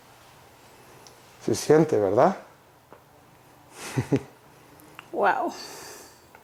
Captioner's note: speaks in a foreign language